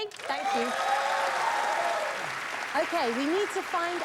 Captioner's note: cheers and applause